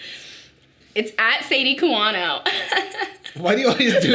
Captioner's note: laughs